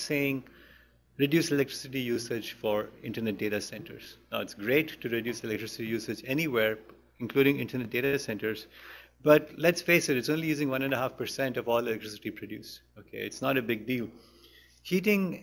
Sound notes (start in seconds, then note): none